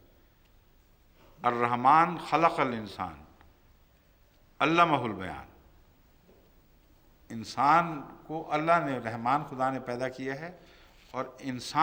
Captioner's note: Arabic